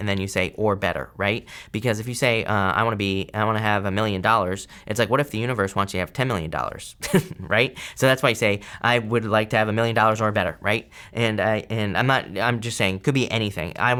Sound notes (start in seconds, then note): 7.0 chuckling